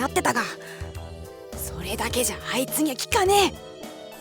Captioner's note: whisper